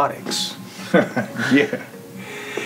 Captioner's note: laughs